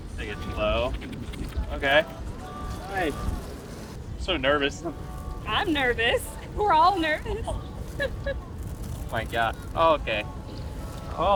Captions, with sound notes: - Take it slow. Okay, nice. So nervous. - I'm nervous. We're all nervous. (laughs) - My god. Okay.